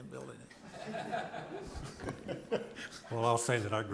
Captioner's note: people laughing